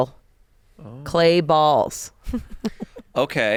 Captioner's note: laughs